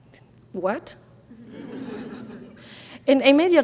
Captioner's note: audience laughing